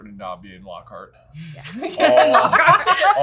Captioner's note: laughing